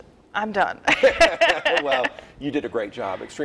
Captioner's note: laughing